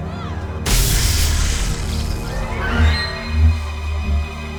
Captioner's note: light saber hissing